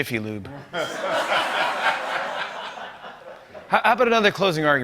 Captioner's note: laughter